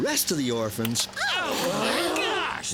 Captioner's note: gasping